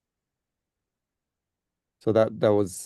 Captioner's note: Hebrew